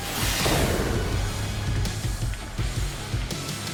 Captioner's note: upbeat rock music continues; smoke swooshing